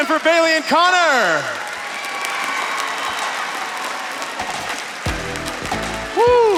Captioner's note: crowd cheers